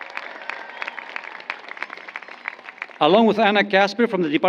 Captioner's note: applause